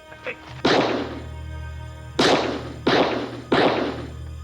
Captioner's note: gun shots